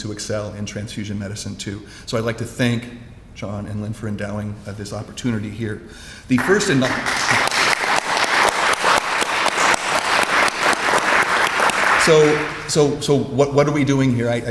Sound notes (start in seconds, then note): 6.3 audience applauds